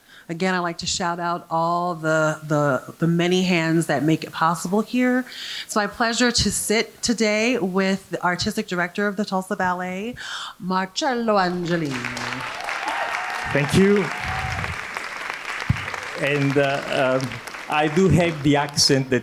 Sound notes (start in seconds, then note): 12.2 audience applauding; 12.2 audience cheering